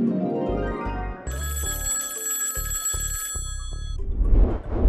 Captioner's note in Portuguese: telefone tocando